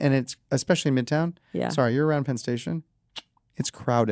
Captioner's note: clicks tongue